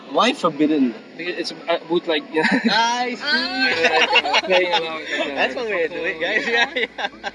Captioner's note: laughs